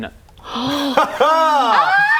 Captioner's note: gasps